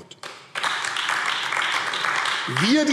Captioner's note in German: Beifall AfD